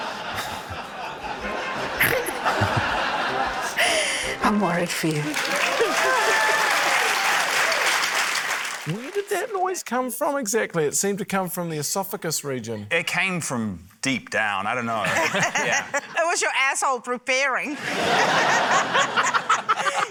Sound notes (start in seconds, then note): 0.0 chuckles; 0.0 laughs; 1.9 snorts; 6.5 cheering, applause; 15.0 laughter; 17.7 laughter